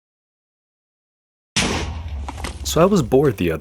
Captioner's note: TNT explodes